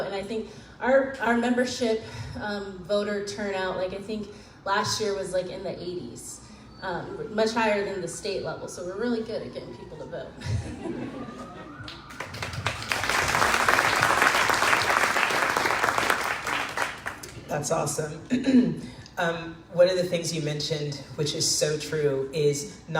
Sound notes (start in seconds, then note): 11.8 crowd claps